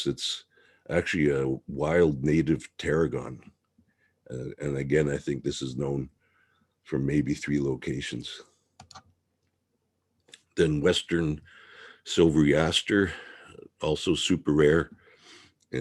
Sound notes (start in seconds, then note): 8.8 mouse clicking